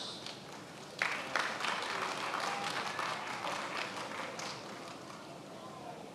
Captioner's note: attendees applauding